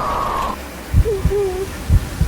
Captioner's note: heartbeats; labored breathing